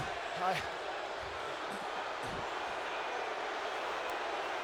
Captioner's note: applause